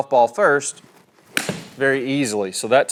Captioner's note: golf club hits golf ball